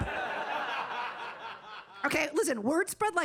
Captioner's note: audience laughing